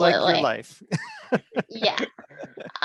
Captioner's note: chuckles